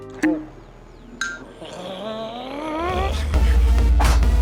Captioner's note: growling; dance music